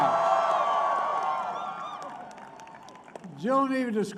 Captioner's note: applause